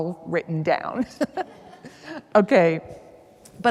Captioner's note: laughs; some attendees laugh